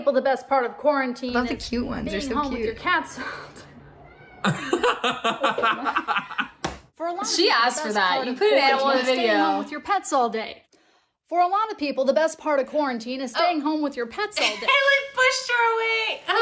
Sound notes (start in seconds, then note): 4.3 laughs; 4.4 woman chuckles